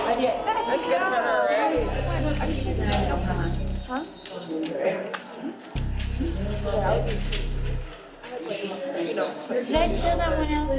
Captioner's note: inmates chattering